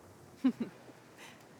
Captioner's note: laughs